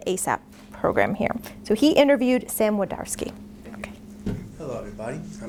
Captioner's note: none